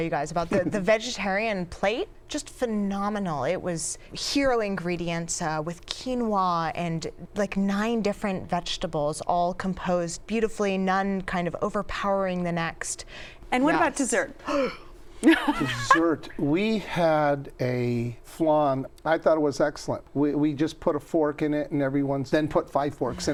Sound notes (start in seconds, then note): 14.7 gasps; 15.2 laughs